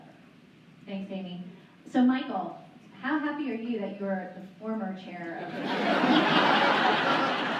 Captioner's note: laughter